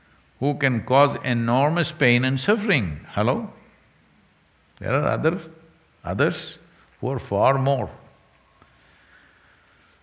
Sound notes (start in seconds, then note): none